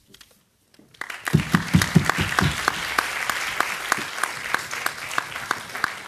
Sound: audience applauding

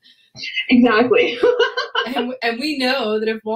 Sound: laughs

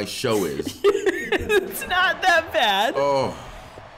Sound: laugh

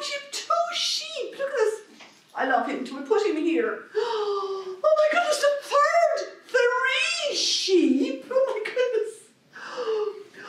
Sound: gasp

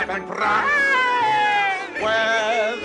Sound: scrooge laughs

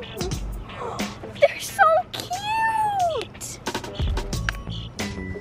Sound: gasp; birds chirping

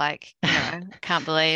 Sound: laughter

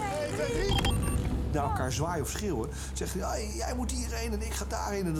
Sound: beep

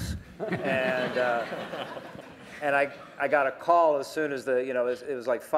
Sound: laughter

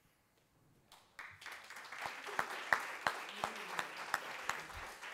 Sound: applause

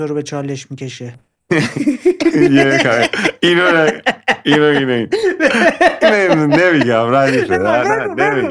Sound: laughter

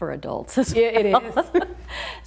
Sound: laughs

